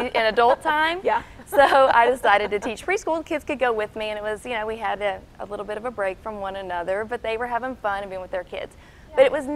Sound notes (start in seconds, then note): 1.4 laughing